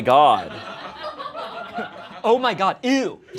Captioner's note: everyone laughs